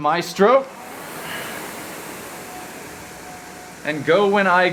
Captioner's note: rowing machine whirring